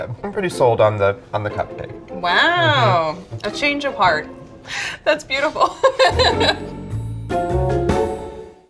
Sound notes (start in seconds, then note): 5.5 laughs; 6.8 bright music